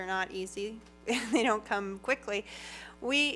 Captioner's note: laughs